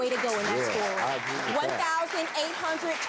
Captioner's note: applause